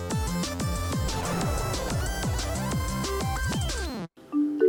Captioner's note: upbeat music; rocket whooshing; light music